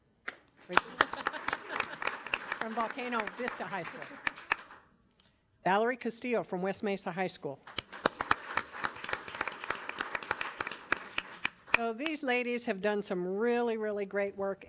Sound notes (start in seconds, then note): 0.7 audience applauding; 7.7 audience applauding